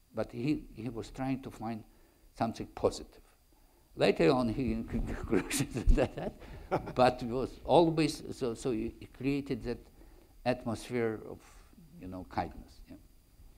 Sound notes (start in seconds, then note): 6.8 laughs